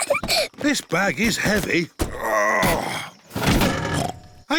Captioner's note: peppa giggles; grunts; snorts